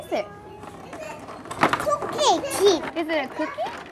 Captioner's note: speaks korean